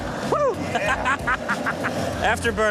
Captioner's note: laughs